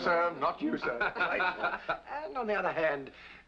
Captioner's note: laughter